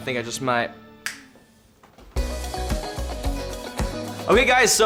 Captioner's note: snaps fingers